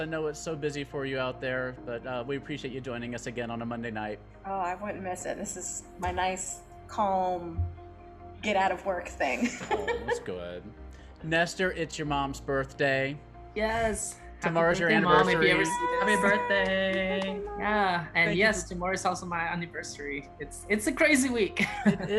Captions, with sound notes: I know it's so busy for you out there, but we appreciate you joining us again on a Monday night. - Oh, I wouldn't miss it. This is my nice, calm, get out of work thing. (laughs) - Oh, that's good. Nestor, it's your mom's birthday. - Yes, happy birthday, mum, if you ever see this. - Tomorrow's your anniversary. - Happy birthday. - Happy birthday. - Happy birthday, mum. - Yeah, and yes, tomorrow's also my anniversary. It's a crazy week. (laughs)